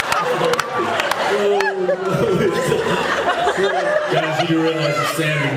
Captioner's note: laughs